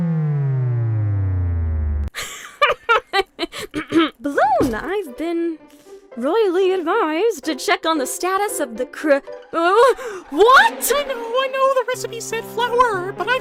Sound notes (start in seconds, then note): 2.1 cabby laughs again; 3.6 clears throat